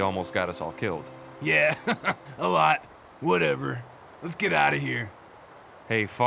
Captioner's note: laughs